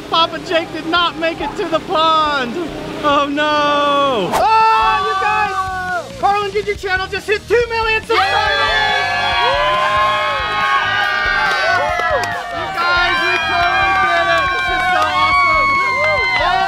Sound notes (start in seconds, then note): 7.6 all yelling and cheering